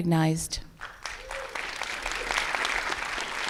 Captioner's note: applause